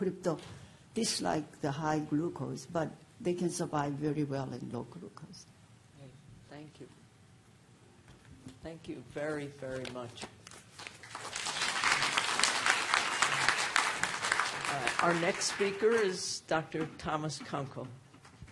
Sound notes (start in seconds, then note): 10.7 applause